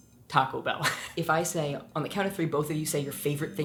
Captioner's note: chuckles